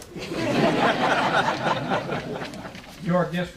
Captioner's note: audience laughing